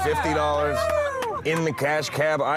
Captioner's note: cheering